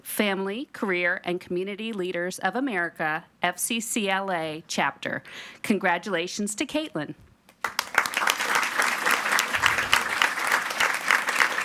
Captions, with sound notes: Family, Career, and Community Leaders of America, FCCLA chapter. Congratulations to Kaitlyn. (everyone applauding)